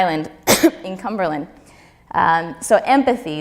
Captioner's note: coughs